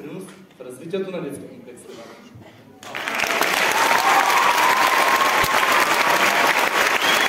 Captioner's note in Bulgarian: аплодисменти